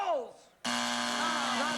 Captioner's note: buzzer